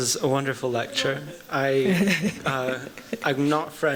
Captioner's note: laughter